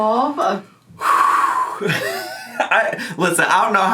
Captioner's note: sigh